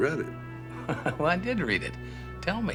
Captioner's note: chuckles